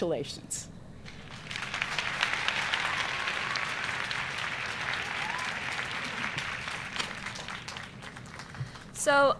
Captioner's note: applause